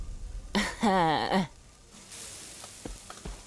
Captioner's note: guffaws softly